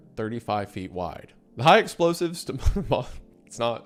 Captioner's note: laughs